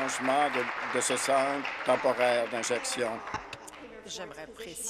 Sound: applause

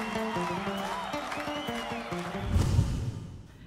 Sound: crowd cheering

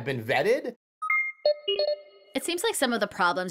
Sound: beeping

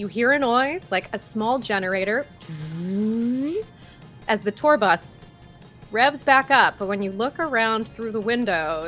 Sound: powering up noise

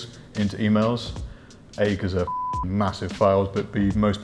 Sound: beep

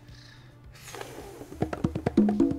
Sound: sighs; upbeat bongo music

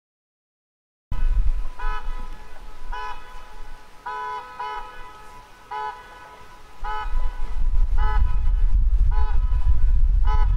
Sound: sound of honking car

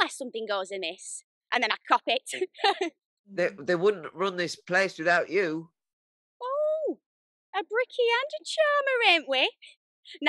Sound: laughs

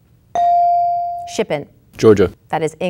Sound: bell dinging

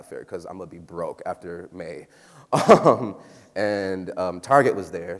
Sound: laughs

